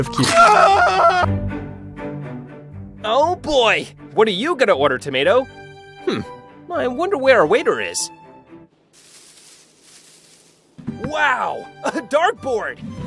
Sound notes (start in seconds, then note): 0.2 screaming in pain; 8.8 rustling